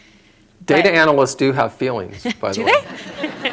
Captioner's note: laughter